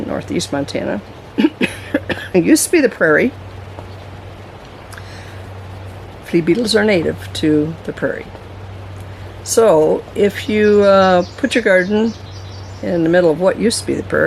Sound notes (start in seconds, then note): 1.4 coughing